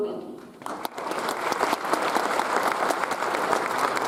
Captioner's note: audience applauds